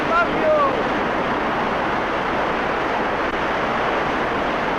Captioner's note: waves roaring